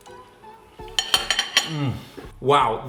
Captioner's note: fork clanks